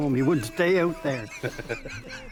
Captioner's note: laughing